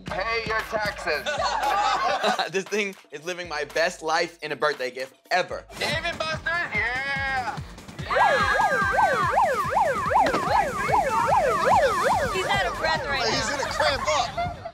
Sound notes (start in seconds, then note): 1.3 cast laughs; 8.0 siren blares